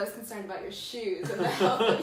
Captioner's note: laughs